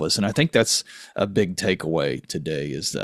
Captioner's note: none